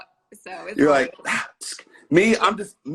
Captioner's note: sighs